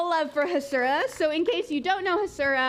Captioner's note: applause